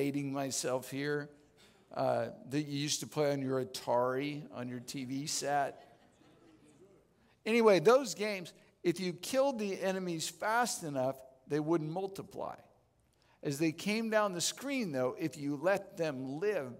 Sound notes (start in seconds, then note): 5.8 audience Laughing